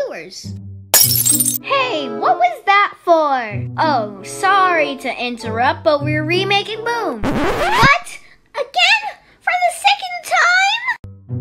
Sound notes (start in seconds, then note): 0.9 Mindfulness Bottle Shatter Sound; 7.2 record Scratch Sound